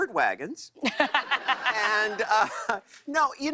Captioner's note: laughter